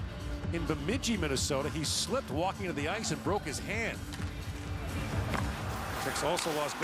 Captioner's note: cheering